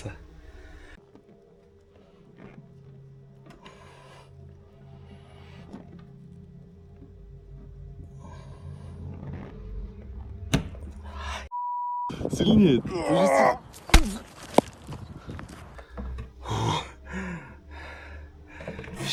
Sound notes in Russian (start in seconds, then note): 3.4 вздыхает; 4.5 тяжело вздыхает; 4.5 фыркает